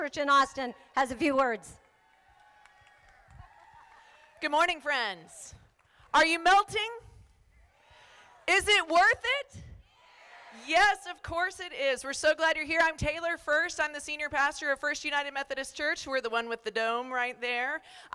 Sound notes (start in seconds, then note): 1.8 crowd applauding; 9.8 crowd